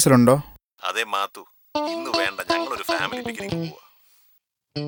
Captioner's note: over the phone